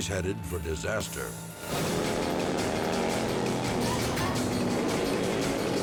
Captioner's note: engines rumble